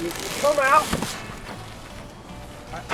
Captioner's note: thud